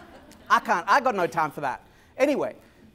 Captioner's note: laughter